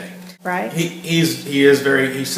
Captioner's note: voiceover